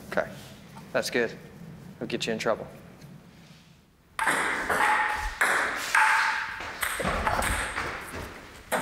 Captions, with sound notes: - Okay, that's good. It'll get you in trouble. (ping-pong ball clanging)